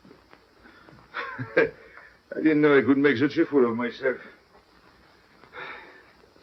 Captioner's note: laughing